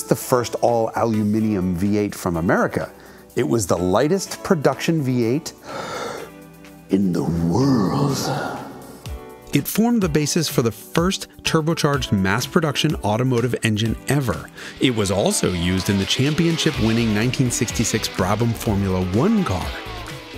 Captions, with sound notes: the first all aluminum V8 from America, it was the lightest production V8 (inhales) in the world. It formed the basis for the first turbocharged mass production automotive engine ever. It was also used in the championship winning 1966 Brabham Formula One car.